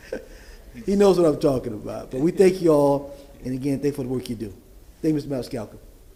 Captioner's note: laughter